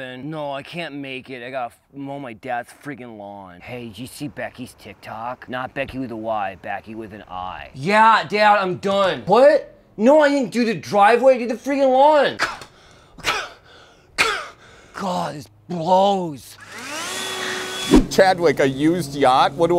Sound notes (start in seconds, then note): 12.4 scoffs; 16.5 blower whirs